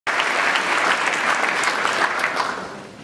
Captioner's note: applause